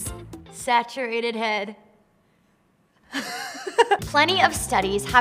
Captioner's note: laughs